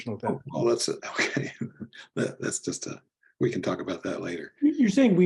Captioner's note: laugh